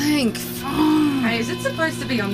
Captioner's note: the winch groans, an alarm beeps